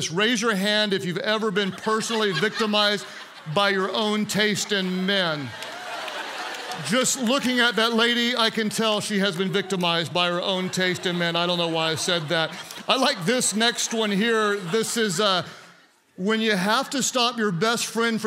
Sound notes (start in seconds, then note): 5.4 congregants laugh